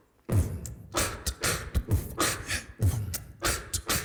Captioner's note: man beatboxing